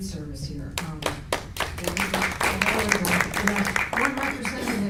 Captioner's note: applause